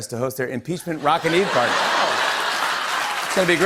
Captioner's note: laughter and applause